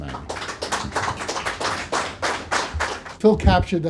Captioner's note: audience applauding